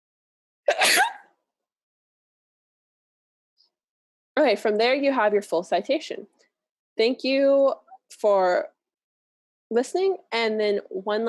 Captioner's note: sneeze